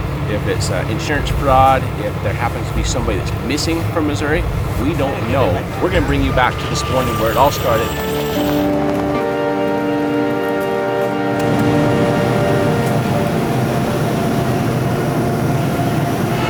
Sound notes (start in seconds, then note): 8.4 dramatic music; 12.4 truck whirring